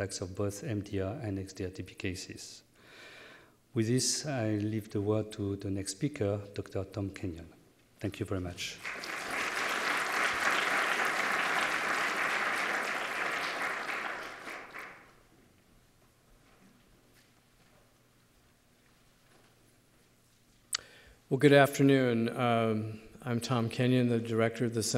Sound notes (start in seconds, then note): 14.7 applause